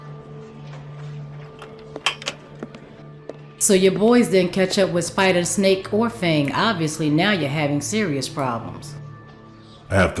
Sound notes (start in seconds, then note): 0.1 dramatic music; 2.4 door opens